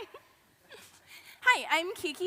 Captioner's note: laughs